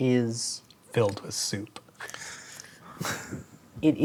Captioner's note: chuckles